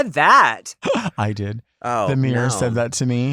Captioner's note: chuckles